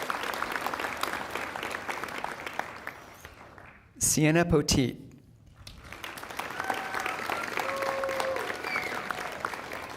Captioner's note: applause